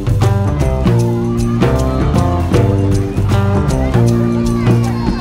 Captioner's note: kids laughing